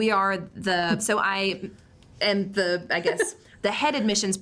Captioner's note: laughs